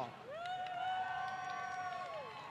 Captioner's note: applause